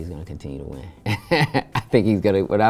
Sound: larenz laughs

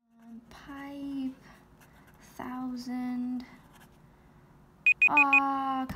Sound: alarm sound

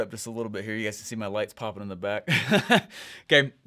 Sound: laughing

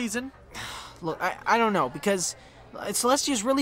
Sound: twilight sighs

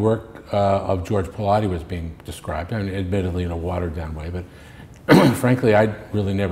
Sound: clears throat

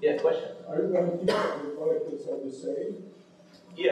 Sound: coughs

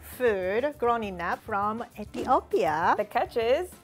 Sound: Amharic

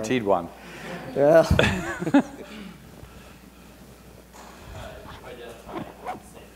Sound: laughs

